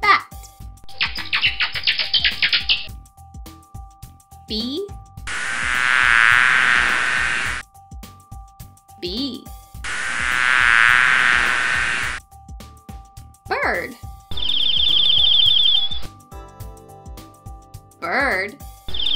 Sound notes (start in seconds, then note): 0.9 bats clicking; 5.3 bees buzzing; 9.8 bees buzzing; 14.3 bird chirping; 18.9 bird chirping